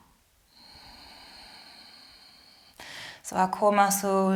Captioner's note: inhales; exhales